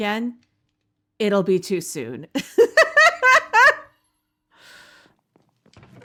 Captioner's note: laughing